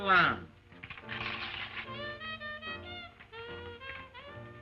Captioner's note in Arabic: تمزق الورق